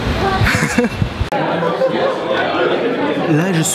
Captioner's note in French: Rire; Brouhaha